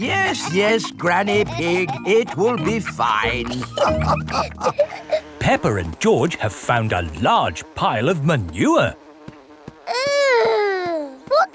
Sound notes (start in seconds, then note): 3.9 all laughing